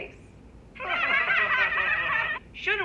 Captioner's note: all laugh